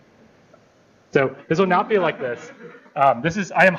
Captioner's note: laughter